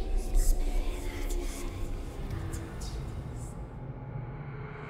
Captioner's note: eerie whispering